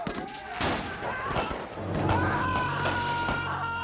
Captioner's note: screaming